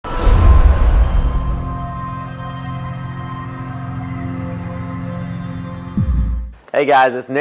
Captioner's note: sound effect